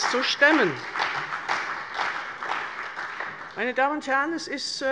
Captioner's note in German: Beifall bei der CDU